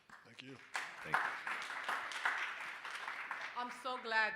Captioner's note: audience applauding